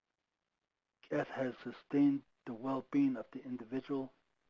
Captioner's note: speaking foreign language